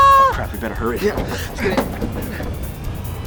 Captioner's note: grunting; suspenseful music